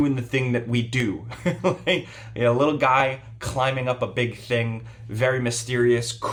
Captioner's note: laughs